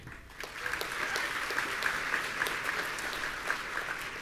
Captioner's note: audience applauding